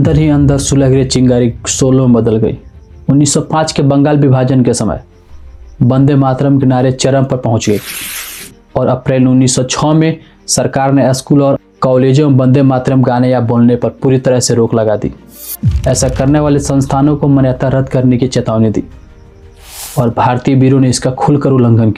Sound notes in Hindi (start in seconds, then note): 7.7 नाक से की जाने वाली आवाज़